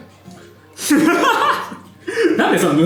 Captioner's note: laughs